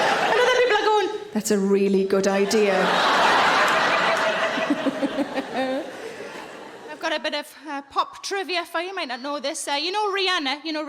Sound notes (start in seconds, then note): 2.4 audience laughing; 4.0 Sarah laughs